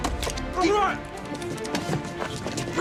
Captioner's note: shouting and grappling